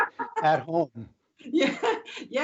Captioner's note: laughter